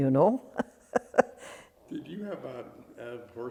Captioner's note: laughs